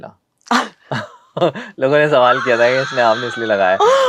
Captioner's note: laughs